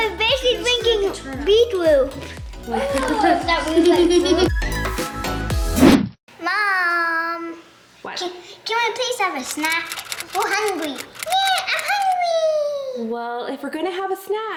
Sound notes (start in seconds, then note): 2.6 laughing; 4.7 upbeat music